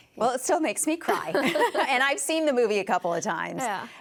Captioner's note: both laugh